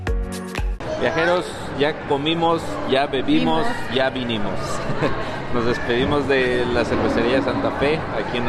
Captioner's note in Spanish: risas